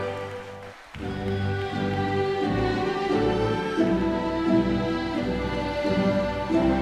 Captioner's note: audience cheering